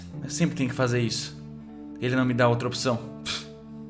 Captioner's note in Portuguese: Pff